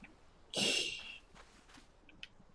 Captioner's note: laughs softly